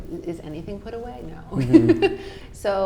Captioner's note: laughing